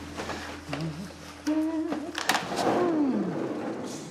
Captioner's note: curtain whooshing; humming; door track rumbles